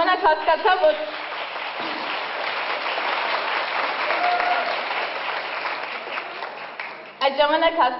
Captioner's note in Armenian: ծափահարություններ